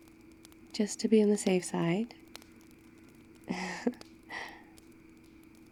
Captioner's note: laughs